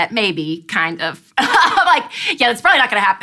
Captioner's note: laughs